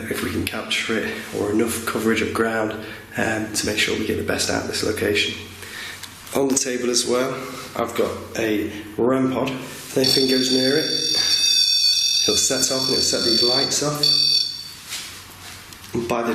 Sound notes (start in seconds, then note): 10.0 REM-POD beeping